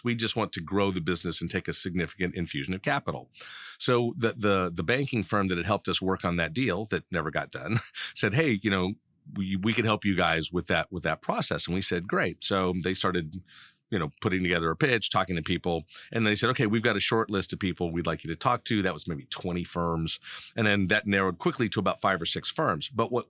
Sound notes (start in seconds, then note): 7.7 laughing